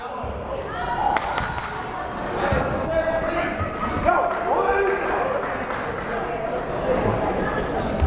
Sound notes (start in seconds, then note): 1.6 clapping; 3.9 yelling